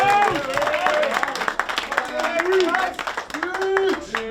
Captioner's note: players cheering